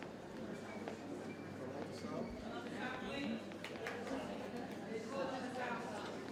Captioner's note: attendees chatter indistinctly